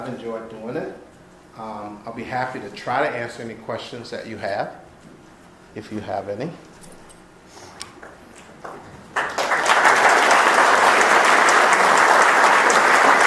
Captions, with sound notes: I've enjoyed doing it. I'll be happy to try to answer any questions that you have if you have any. (applause)